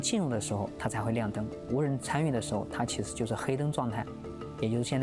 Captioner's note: speaking chinese